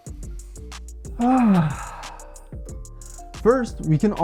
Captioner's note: breathing